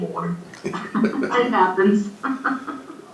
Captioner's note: chuckles